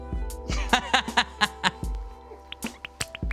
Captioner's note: laughs